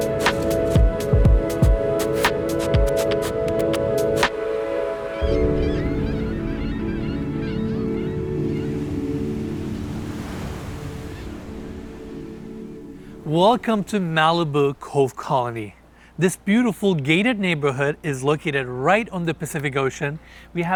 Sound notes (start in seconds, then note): 5.1 gulls squawking; 8.8 waves crashing; 11.7 upbeat music fades out